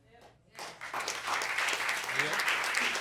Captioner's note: audience applauds